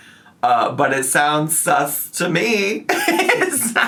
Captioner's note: laughs